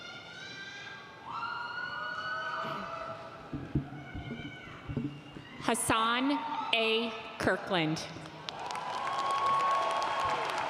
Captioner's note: applause